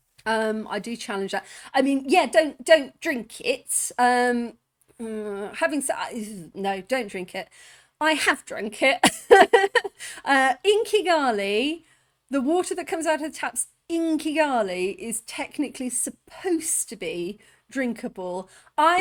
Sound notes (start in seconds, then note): 9.0 laughing